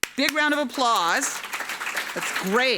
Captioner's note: claps; audience laughing